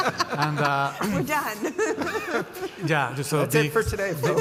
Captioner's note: laughs; panelists laughing